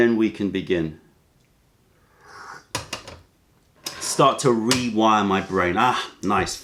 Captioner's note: sips tea